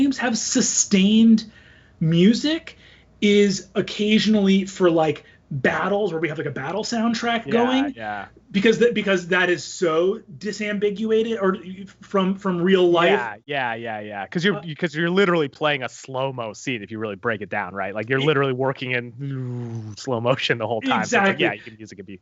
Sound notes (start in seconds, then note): 19.2 buzzes